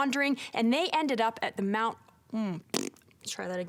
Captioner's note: blowing a raspberry